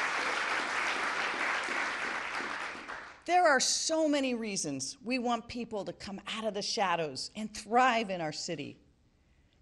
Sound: applause

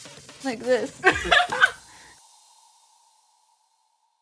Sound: laughing

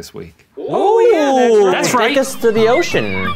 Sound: all exclaim

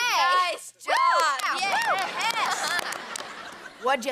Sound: cheering, applauding

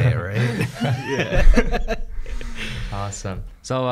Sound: laughing

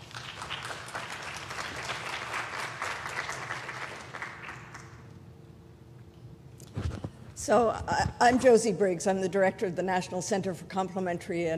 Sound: applause

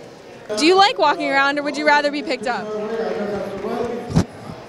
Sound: dog sniffing mic

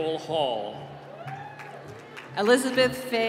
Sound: applause

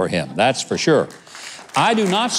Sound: audience clapping

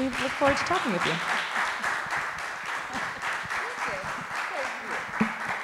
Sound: audience applauding

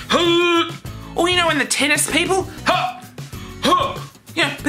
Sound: grunts; grunts

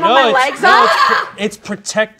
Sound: screams

